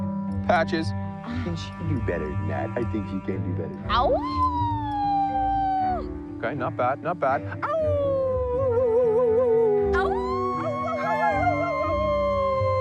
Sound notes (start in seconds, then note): 3.9 Daisy howling; 7.6 Jace howling; 10.2 all howling together